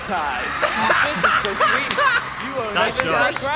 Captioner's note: laughing